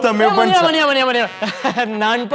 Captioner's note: laughs